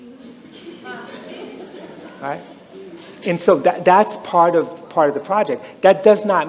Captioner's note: some laughter